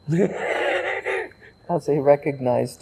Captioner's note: laughing